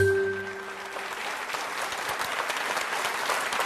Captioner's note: applause